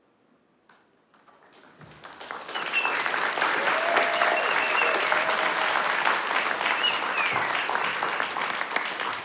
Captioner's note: applause and Cheers